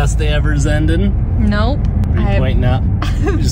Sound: laughs

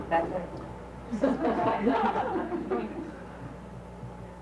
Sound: laughing

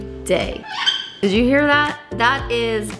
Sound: bird squeaking

